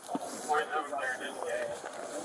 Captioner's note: radio chatter